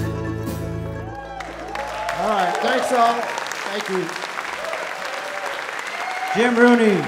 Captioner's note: audience Applause